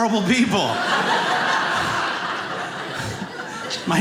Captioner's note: audience laughing